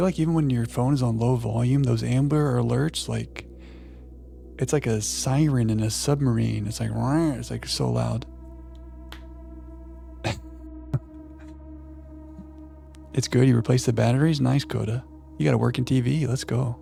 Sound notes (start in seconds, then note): 10.9 chuckles